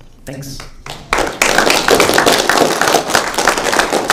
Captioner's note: applause